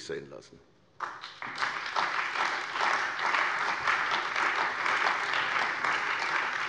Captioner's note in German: Beifall bei der CDU und dem BÜNDNIS 90/DIE GRÜNEN